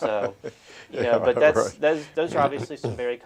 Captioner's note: laughter